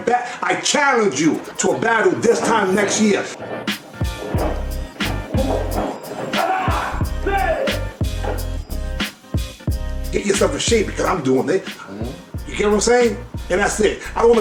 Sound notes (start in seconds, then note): 4.3 upbeat hip hop music; 6.3 martial artist shouts